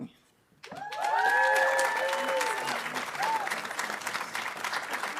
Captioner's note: audience applauding